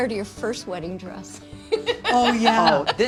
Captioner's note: laughs